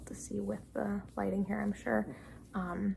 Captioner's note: none